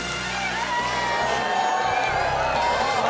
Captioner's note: crowd whoops